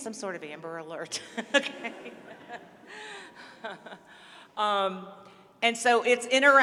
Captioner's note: laughter